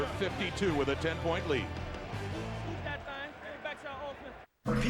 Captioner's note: applause